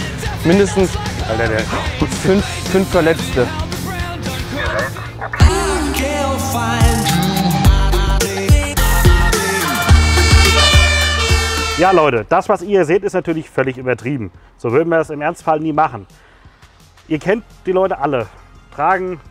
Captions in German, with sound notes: Mindestens ... fünf ... fünf Verletzte. (Flotte Musik) (Signalhorn) Leute, das was ihr hier seht, ist übertrieben. So würden wir das im Ernstfall nie machen. Ihr kennt die Leute alle.